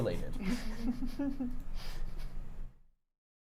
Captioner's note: muffled laugh